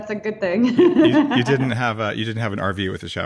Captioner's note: laughing